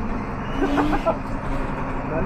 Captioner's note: laughings